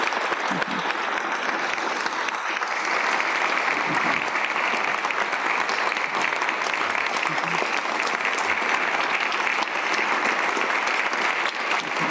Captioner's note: applause